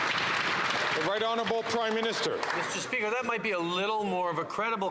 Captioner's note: some Applause